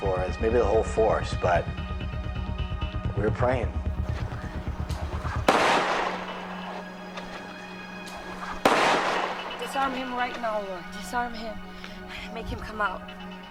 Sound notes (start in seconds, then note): 4.0 gunshots blasting; 5.4 suspenseful music